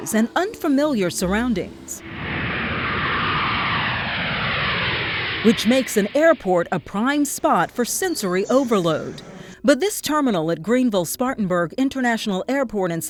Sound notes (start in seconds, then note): 2.5 jet roaring